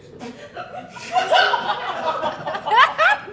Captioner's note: audience Laughing